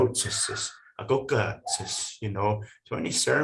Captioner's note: speaking foreign language